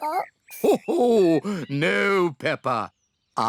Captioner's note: laughs